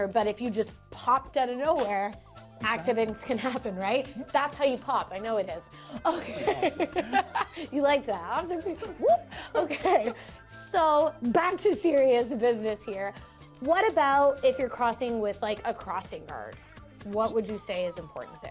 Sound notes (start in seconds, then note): 6.0 laughs